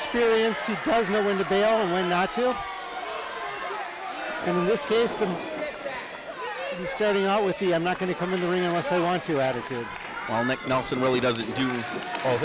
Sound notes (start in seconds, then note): 3.4 crowd jeers